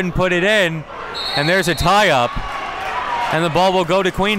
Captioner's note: whistle blows